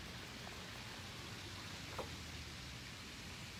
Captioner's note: wind blowing